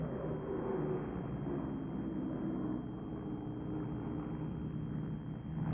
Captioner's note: plane engines rumbling